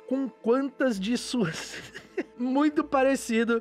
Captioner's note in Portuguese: risos